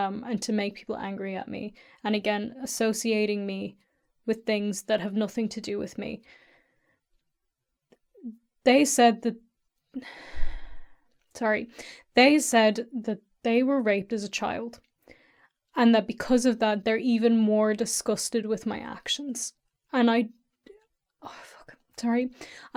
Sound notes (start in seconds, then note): 10.1 sigh